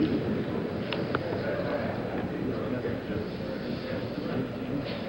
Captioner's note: murmuring continues